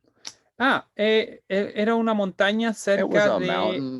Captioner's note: speaking in Spanish